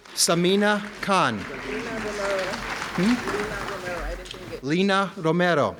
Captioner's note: audience clapping